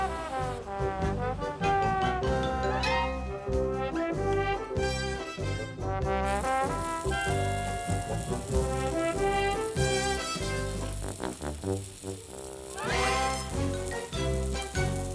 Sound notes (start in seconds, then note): 0.2 bright quirky music; 6.5 water splashing; 11.8 lively quirky music